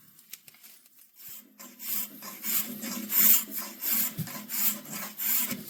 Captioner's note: scraping